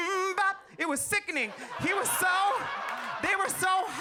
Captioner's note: audience laughs